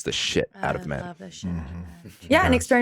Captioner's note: chuckles